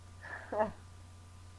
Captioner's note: chuckle